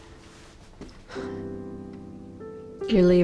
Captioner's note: sighs